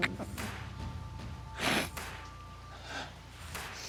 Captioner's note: sobbing